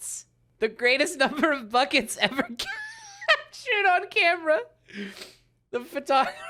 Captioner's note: laughing